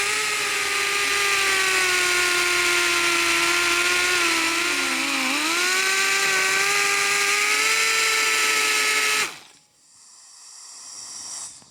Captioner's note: grinder Whirring